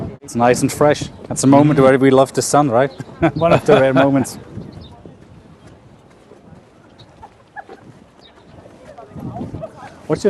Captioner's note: Sadhguru laughs